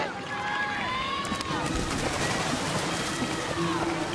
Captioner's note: crowd cheering